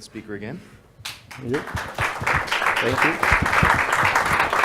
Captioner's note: audience applauds